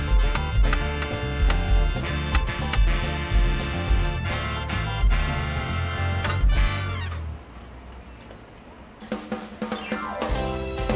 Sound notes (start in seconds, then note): 1.3 knocks